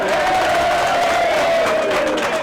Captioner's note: applause